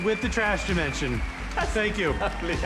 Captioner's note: audience cheers, applauds